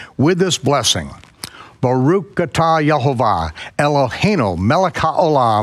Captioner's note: speaking foreign language